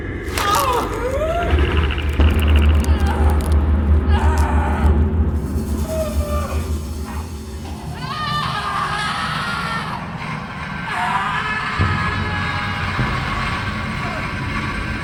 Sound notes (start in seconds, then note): 0.3 Lori gasping; 7.8 Lori screaming; 8.1 intense music